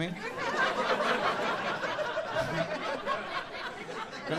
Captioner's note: audience laughing